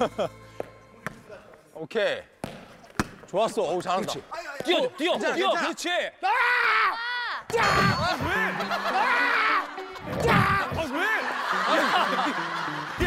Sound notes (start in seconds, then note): 6.2 screaming